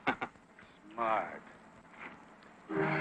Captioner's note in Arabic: ضحكات خافتة